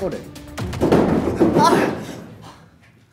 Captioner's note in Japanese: 外でも大騒ぎ